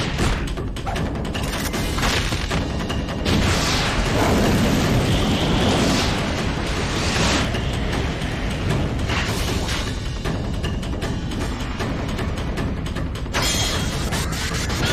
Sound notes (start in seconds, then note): 3.2 flametrower being fired